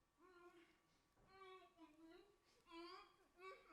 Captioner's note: woman groans